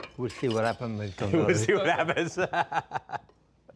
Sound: laughs

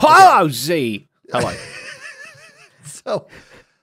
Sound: laughs

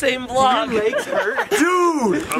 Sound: laughing

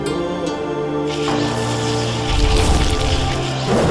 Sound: whirring sound

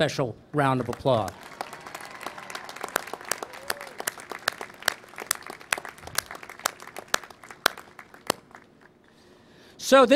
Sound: applause

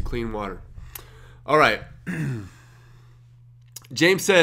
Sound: clears throat

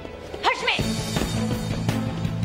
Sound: sensei speaking foreign language; intense music

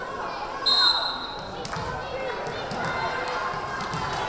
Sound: whistle blaring

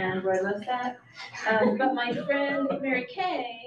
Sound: audience chuckles

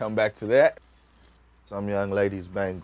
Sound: bangles jingle

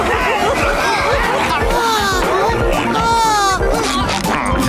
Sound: sighing

